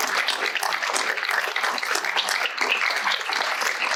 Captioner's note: applause